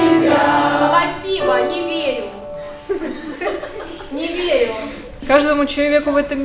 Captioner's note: laughter